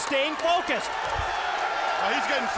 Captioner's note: audience cheering